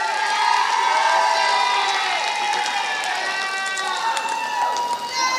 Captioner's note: applause